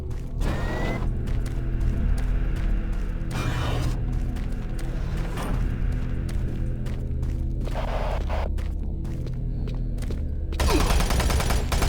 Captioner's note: gunshots